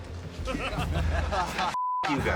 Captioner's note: laughter